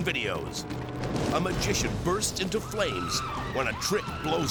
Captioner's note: people screaming